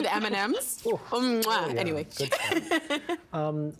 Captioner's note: laughing